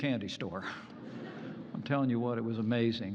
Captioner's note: laughter